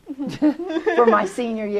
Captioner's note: laughter